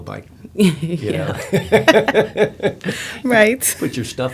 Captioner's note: laughter